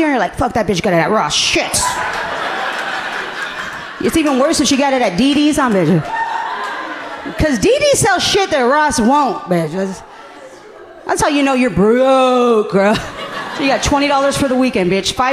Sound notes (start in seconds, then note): 1.9 audience laughing gently; 12.8 laughing